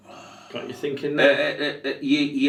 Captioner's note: sighing